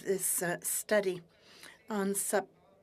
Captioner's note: speaking french